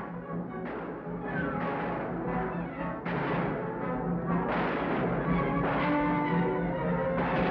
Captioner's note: exciting music; guns bang